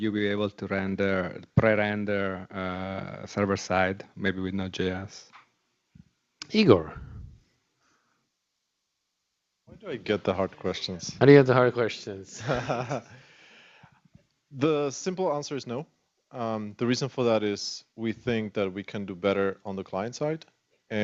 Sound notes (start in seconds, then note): 12.3 laughter